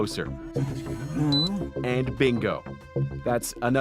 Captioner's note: beeping